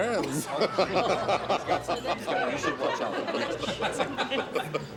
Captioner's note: people laughing